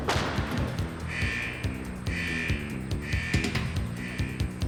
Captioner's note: alarms beeping